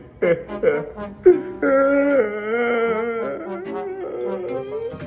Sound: more sobbing

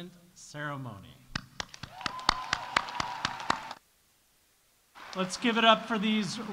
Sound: audience applauding; audience cheering

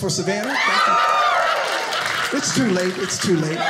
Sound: audience cheers

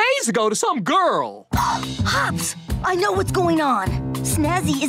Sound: gasping

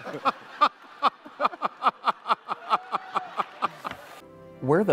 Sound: laughter

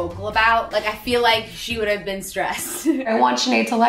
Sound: laughs

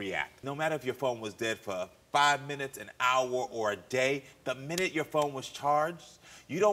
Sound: none

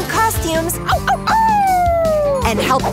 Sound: howling

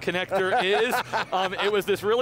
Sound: laughing

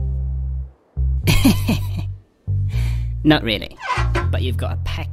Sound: laughs

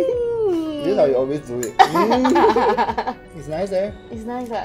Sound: laughs

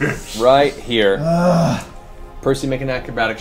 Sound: groans

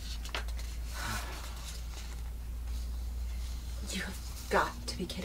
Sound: Marla sighs

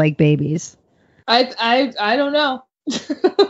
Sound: laughs

